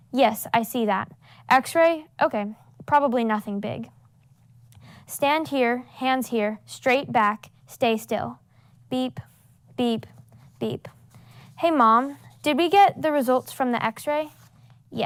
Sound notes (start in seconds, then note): none